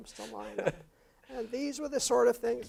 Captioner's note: laugh